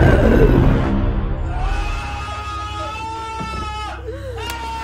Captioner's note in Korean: 비명과 웃음